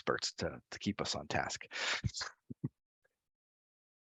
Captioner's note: laughs